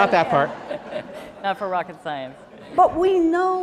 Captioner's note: laughter